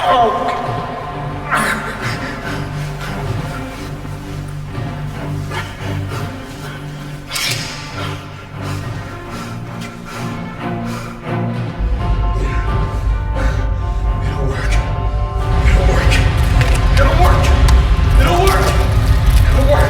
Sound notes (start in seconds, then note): 4.1 dramatic music; 7.5 Dr. Broward panting; 7.5 dramatic music; 13.2 Jack panting